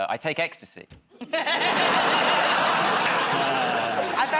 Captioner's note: laughter